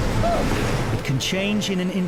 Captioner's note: boater grunts